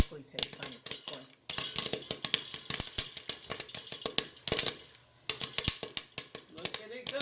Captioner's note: popping sounds